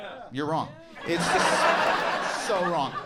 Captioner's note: audience laughing